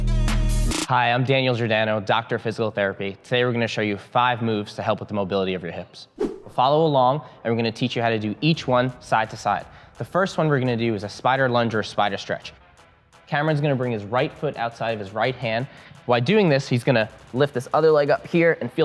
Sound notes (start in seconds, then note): 6.2 air whooshing